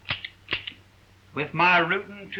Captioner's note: gun pops